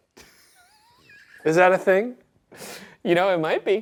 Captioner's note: Ryan laughs